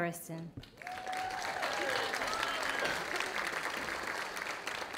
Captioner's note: audience applauding